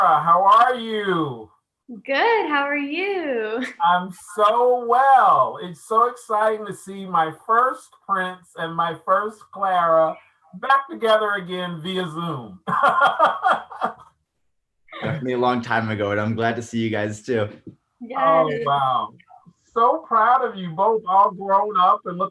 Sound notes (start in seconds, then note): 12.8 laughing